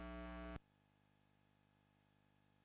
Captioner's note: audio distorted